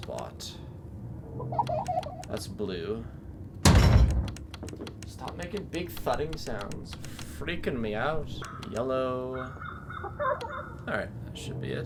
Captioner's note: thud